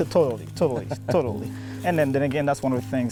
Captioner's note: laughing